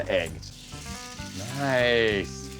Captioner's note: grill sizzling